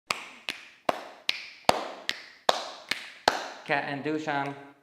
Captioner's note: clapping to the beat